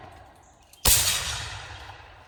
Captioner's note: loud shot